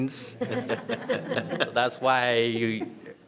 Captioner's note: everyone laughs